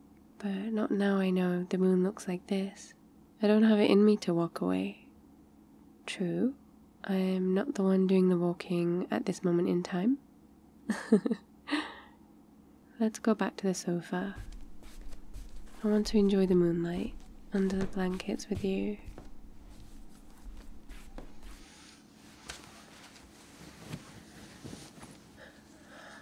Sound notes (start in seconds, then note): 10.9 laughs; 14.6 footsteps